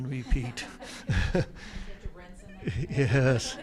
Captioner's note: attendees chuckle